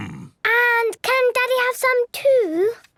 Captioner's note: coughs